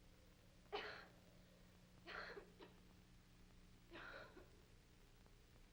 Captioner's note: Helen coughs